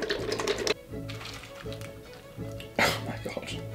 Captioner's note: yogurt splashing on clusters and oats